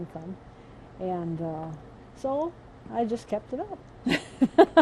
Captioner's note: laughs